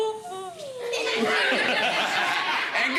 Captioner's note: laughter